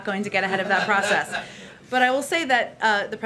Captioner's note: laughter